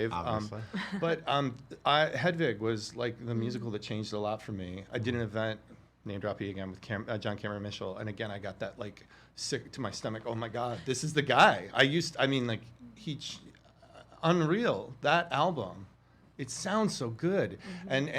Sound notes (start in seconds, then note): 11.9 stammering